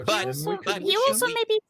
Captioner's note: murmurs